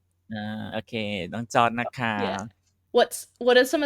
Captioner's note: in Thai